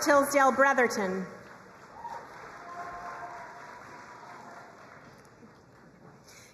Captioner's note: crowd cheering and applauding